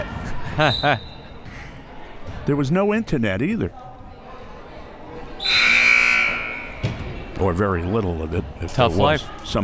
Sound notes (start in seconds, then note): 0.3 laughs; 0.6 whistle; 5.4 buzzer